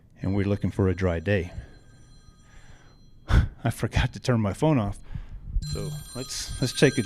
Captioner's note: phone ringing